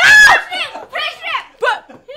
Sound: laughs

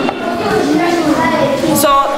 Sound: children discuss activity

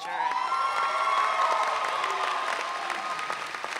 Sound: audience cheering

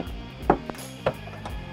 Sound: knocks

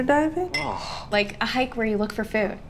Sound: ALEXANDRE scoffing

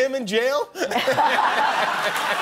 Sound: laughter

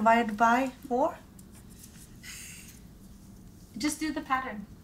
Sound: laughs

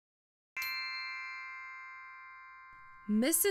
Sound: magical chime

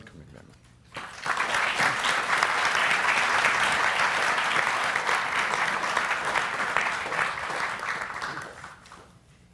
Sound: applause

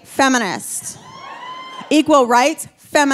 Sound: audience cheering

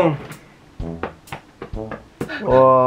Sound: patting

